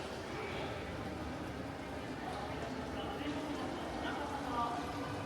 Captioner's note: guests chatting faintly